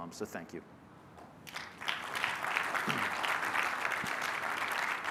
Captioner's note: applause